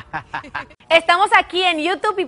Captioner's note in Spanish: risas